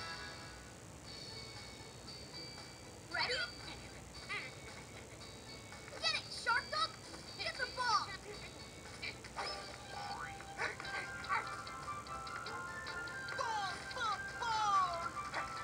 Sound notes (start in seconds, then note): 10.4 excited panting